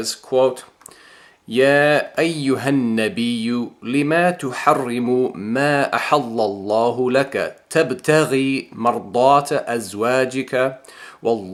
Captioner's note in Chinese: 念阿拉伯语